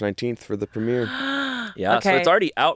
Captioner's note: gasps